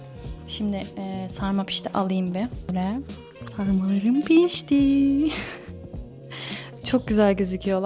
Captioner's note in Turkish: kahkaha